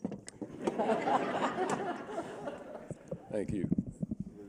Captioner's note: laughter